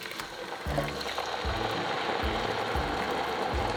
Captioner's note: bubbling